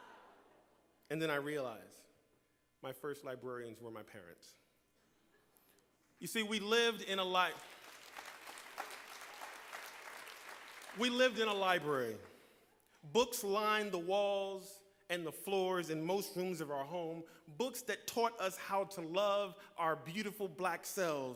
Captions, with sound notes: And then I realize, my first librarians were my parents. You see, we lived in a . . . (Applause) we lived in a library. Books lined the walls and the floors, in most rooms in our home. Books that taught us how to love our beautiful, black selves.